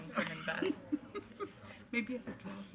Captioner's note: laughing